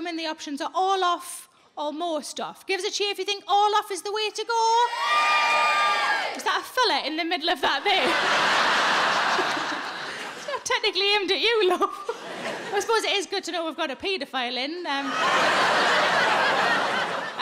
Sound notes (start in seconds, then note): 4.9 audience cheering; 7.8 audience laughing; 15.0 audience laughing